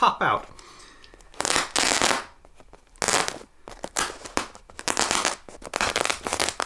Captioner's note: plastic popping and crackling